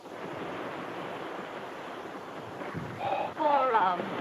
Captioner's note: exhales; waves crash